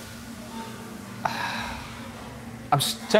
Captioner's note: sighing